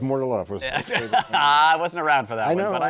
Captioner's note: laughs